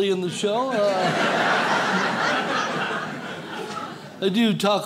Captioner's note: audience laughs